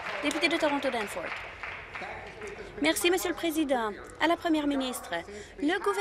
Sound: applause

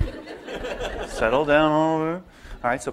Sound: laughter

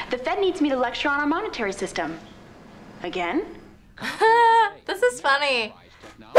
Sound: laughs

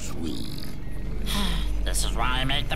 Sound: sighs

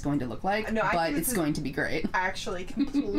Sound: laughing

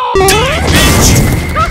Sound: jumpman jump noise

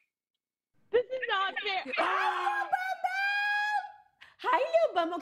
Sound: laughter

